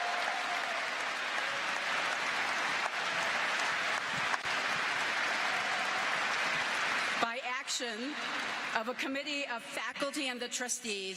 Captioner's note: cheers and applause